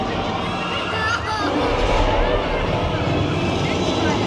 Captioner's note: T-Rex roars; tram thuds; people scream